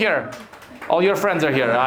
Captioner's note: Belarusians clapping